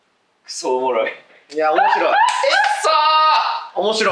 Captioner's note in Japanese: 高音引き笑い